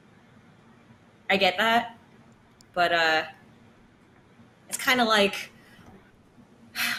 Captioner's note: sighs